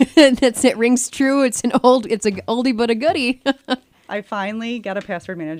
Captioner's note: laughs